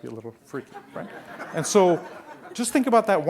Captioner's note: laughing